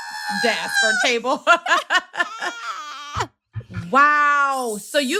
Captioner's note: laughter